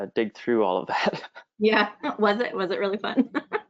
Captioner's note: laughs